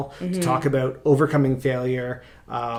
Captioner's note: none